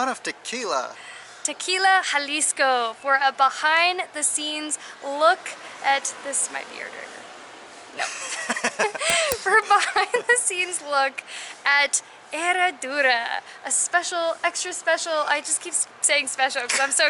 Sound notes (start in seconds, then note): 8.0 laughter